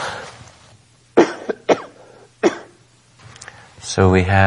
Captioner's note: coughing